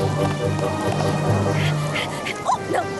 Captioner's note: panting